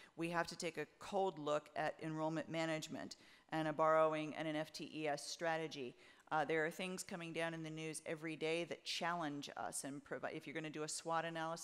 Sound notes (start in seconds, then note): none